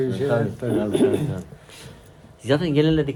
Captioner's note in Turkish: boğazını temizler